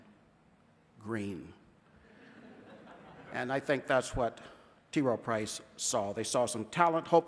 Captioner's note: scattered laughter